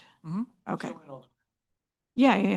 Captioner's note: speaking faintly